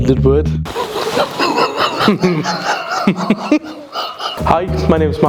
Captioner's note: laughter